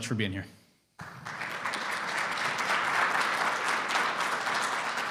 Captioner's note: audience clapping